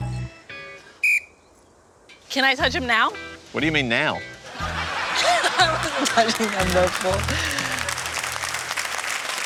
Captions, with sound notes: (BLOWS WHISTLE) Can I touch them now? What do you mean, now? (LAUGHS) I wasn't touching them before.